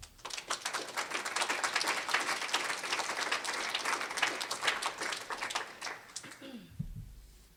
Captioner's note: applause